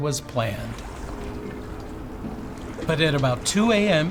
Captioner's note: water sloshing; horn wailing